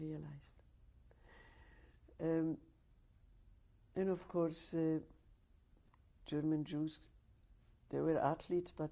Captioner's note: pauses for 3 seconds